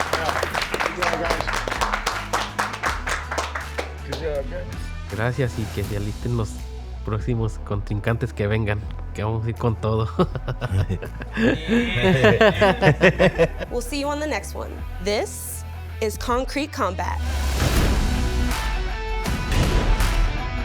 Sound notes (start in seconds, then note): 0.0 all applaud; 9.9 both laugh; 17.3 light rock music